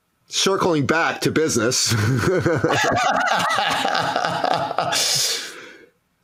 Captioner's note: both laughing